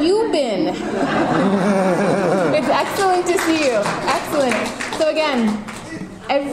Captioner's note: audience laughter and applause